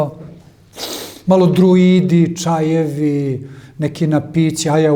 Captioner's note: snort